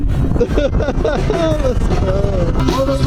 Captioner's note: drunken laughing noises